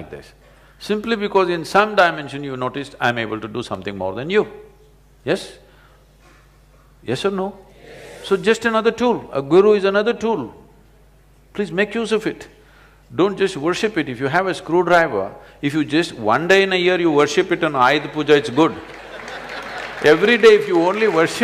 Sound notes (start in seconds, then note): 18.3 laughter/Applause; 18.3 笑聲/掌聲